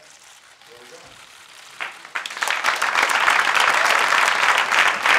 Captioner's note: applause